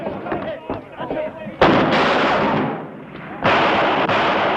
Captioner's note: shouting and gunfire